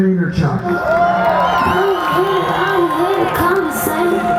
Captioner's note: audience cheering